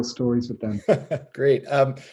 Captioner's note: laughing